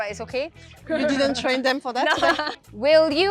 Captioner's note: laughs